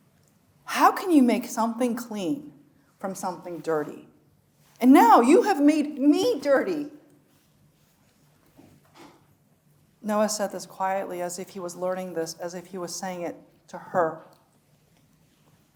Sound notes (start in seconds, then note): none